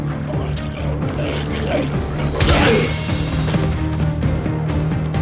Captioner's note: intense music continues; glowzies growling